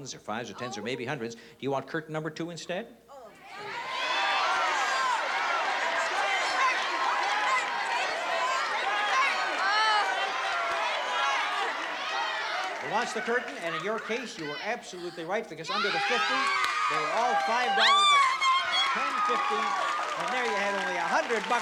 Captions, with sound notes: or $10's, or maybe $100's. Do you want curtain number two instead? - Oh, jeez. [CHEERING] - Two! Number two! - Curtain! Go for the curtain! Take the curtain! Take the curtain! - Oh-- curtain. - She wants the curtain. And in your case, you were absolutely right. Because under the $50, they were all $5 bills. - Oh, thank you! - $10, $15, and there you have it, only $100.